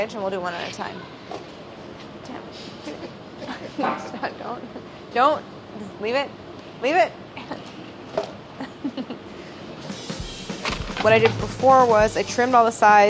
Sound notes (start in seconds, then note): 8.6 laughing